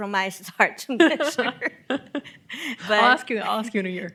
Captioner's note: both laughing